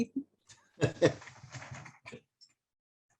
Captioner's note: laughter